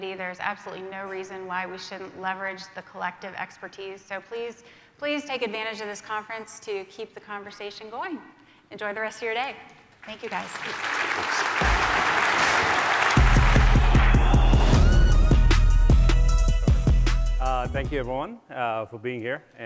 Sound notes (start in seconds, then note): 10.0 applause; 11.6 upbeat music